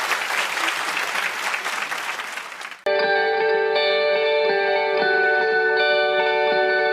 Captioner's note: applause